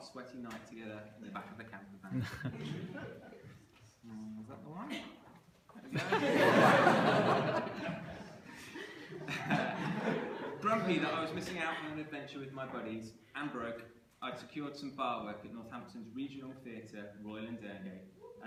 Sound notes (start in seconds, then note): 5.8 laughter